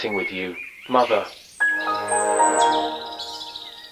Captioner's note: Windows XP shutdown sound